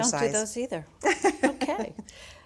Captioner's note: laughs